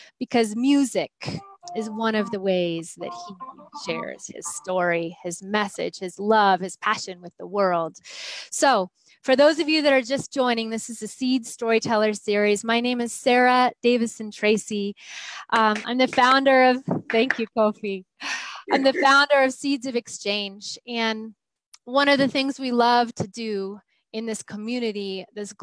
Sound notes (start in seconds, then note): 15.6 clapping